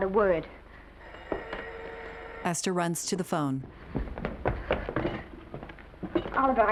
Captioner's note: phone ringing